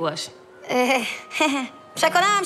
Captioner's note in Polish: śmieje się